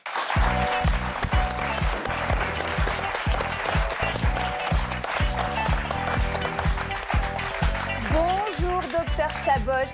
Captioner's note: applause